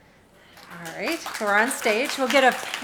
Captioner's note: audience clapping